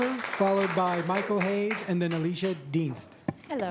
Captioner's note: applause